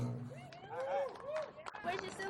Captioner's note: light cheers